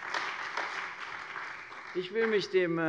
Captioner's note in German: Beifall bei der CDU und dem BÜNDNIS 90/DIE GRÜNEN